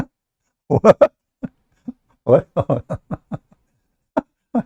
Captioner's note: Ketawa